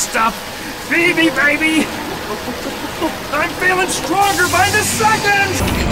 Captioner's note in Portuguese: barulho de agua